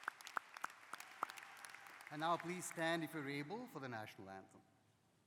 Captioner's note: cheers and applause